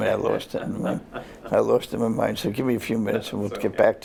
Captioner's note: laughter